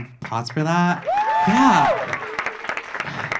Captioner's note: audience clapping; audience cheering